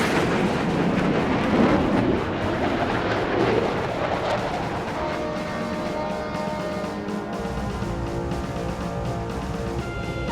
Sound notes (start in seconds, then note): 5.0 ship horn blares; 7.5 proud music